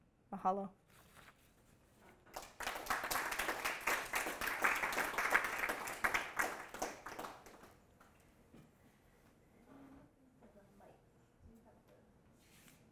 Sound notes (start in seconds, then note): 2.3 applause